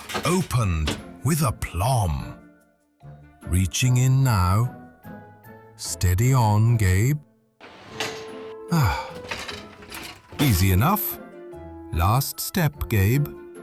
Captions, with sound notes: Opened - with aplomb! Reaching in now... steady on, Gabe [ sighs ] Easy enough! Last step, Gabe